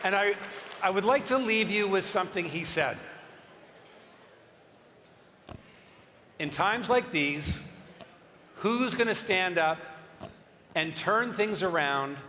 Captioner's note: cheering and applause